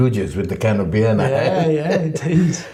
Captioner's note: laughs